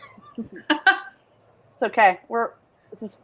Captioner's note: laughs